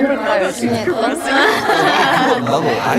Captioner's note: hahaha